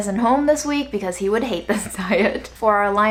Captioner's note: chuckles